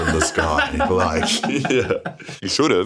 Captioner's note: laughs